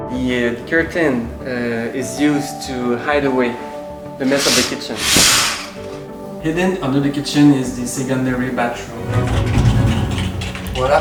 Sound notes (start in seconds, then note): 4.2 curtain draws; 9.2 doors slide